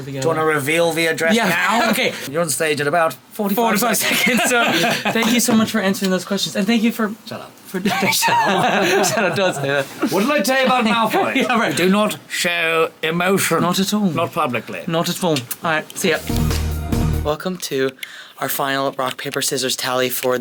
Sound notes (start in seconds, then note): 4.0 laughing; 7.8 laughing